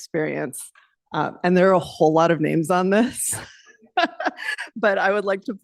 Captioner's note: laughs